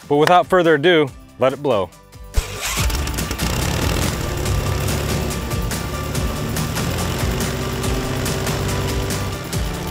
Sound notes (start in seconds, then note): 2.4 engine revs loudly; 5.9 upbeat music